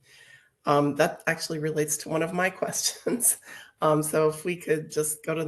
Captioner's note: laughs